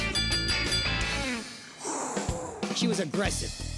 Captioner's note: bell dings; exhales